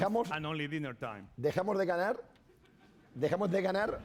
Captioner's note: speaking spanish